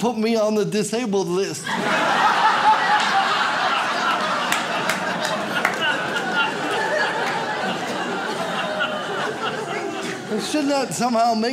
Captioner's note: audience laughs